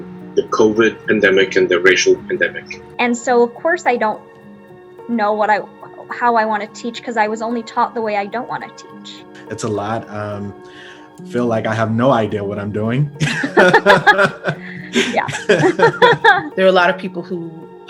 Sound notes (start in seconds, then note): 13.2 laughing